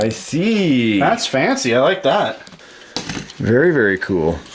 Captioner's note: voiceover